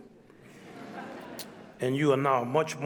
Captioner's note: audience laughs